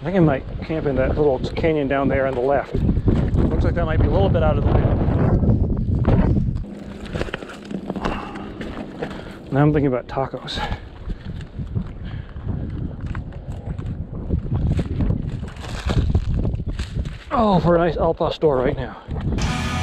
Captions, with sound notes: I think I might camp in that little canyon down there on the left. Looks like that might a little bit out of the wind. Now I'm thinking about tacos. (wind whooshing) (footsteps crunching) Oh, for a nice al pastor right now.